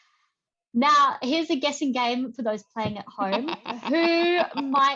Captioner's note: chuckles